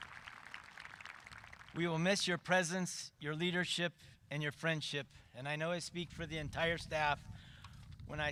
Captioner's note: cheering and applause